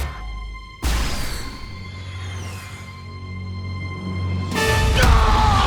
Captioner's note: wings whoosh; loud fight noises